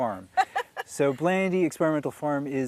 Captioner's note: laughing